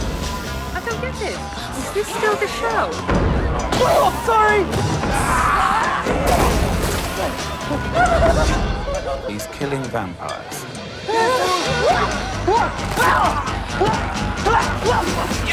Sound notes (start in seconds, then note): 11.0 shouting